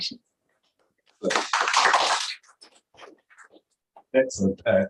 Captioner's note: applause